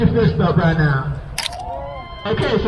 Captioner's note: crowd cheers